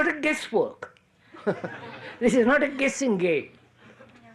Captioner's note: laughs